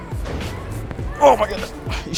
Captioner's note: grunts